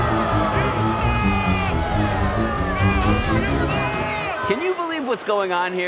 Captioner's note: crowd booing